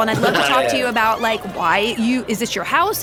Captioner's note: laughs